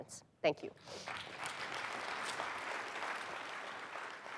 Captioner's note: applause